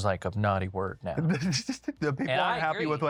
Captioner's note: laughs